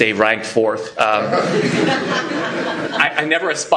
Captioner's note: laughter